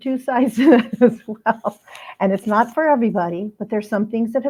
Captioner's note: laughter